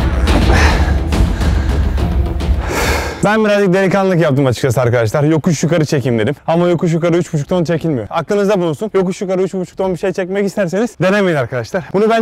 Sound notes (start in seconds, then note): 0.0 grunting noises and background music; 2.6 exhaling